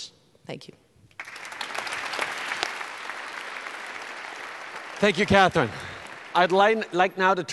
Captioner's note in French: Applaudissements